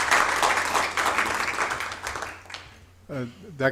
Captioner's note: applause